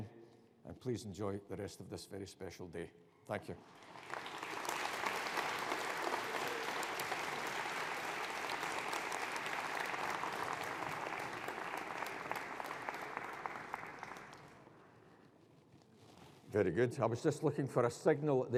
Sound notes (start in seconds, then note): 3.8 audience applauding